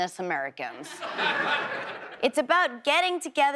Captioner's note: audience laughs